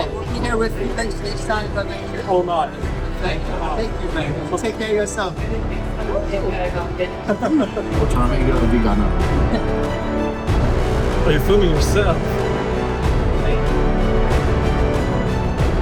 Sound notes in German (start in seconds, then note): 7.9 in einer Fremdsprache gesprochen; 8.3 dramatische Musik